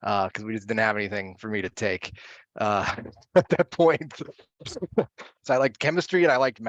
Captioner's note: laughs